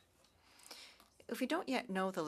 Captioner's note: speaking French